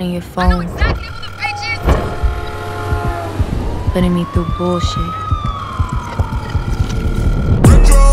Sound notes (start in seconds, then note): 2.4 traffic sounds; 5.3 phone call